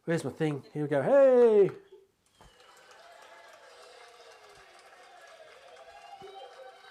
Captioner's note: audience applauding